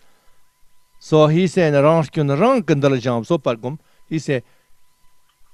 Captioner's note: tibetan